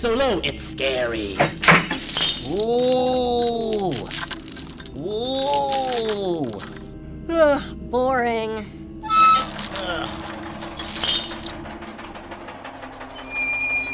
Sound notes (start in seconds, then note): 7.2 yawns